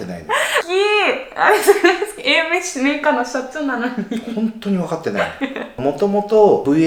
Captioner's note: laughs